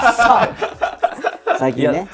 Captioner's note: laughing